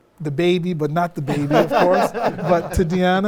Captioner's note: interviewees laugh